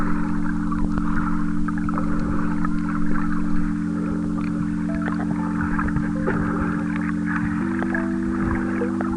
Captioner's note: wind blowing